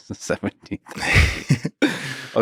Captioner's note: Lex laughs